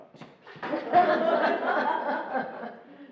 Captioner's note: laughing